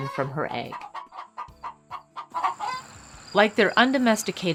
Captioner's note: hen clucks